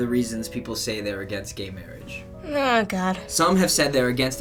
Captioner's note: wearily